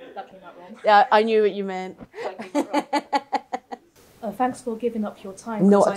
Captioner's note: laughter; laughter